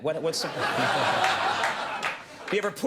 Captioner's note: audience laughing